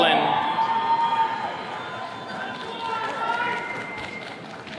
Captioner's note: attendees cheering